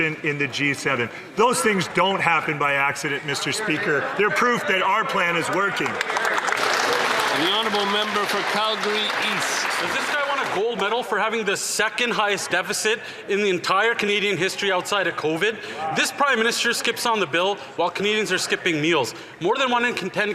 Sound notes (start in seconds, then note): 10.8 some Applause